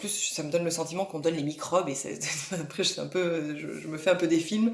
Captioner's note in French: rires